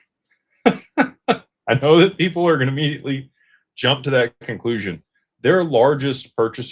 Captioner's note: laughter